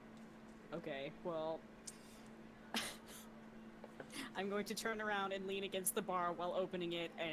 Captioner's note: laughs